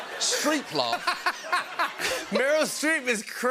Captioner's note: laughter